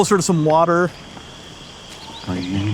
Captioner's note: birds chirping and squealing